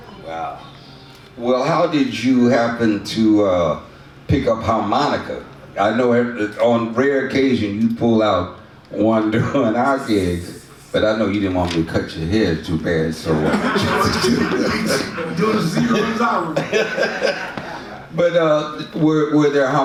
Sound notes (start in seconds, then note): 13.3 audience laughs; 17.8 laughs